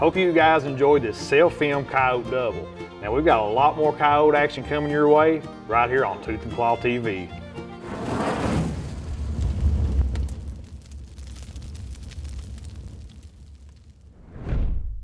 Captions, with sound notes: Hope you guys enjoyed this self-filmed coyote double. Now we've got a lot more coyote action coming your way, right here on Tooth and Claw TV. (Fire crackling)